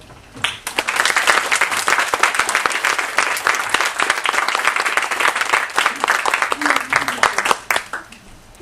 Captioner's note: applause